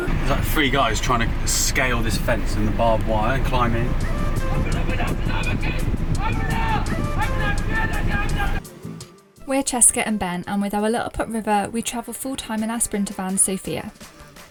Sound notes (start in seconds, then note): 3.6 men shouting